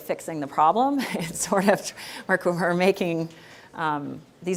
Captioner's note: chuckling